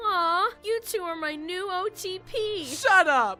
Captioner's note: mocking